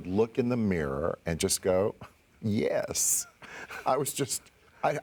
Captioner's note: laughs